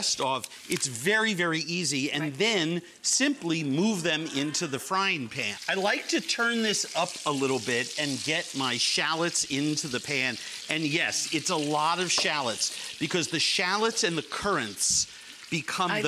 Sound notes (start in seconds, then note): 3.6 audience excitement; 5.5 chicken sizzling